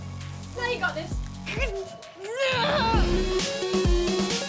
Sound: groans

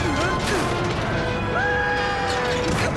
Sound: screaming

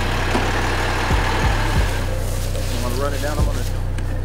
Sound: truck backup whining; truck engine rumbling

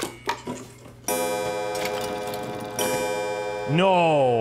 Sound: clock chimes

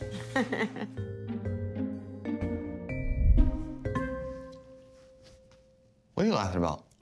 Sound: laugh

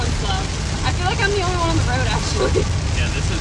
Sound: laughs

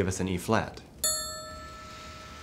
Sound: tink bells

